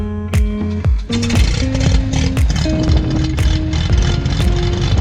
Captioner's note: plane engine revs